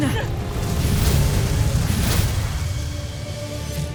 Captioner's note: infernal whoosh-crackle, sparkling whoosh; music swells